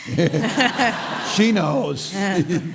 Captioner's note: laughter